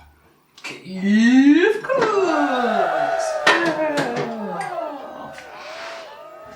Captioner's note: cheerin